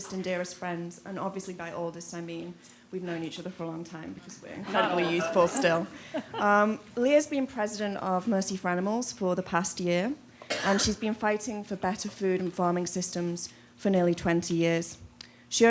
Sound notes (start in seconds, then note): 4.6 laughter